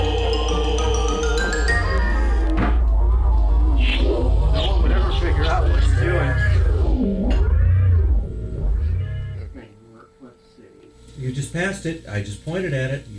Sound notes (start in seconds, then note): 2.3 electronics whirring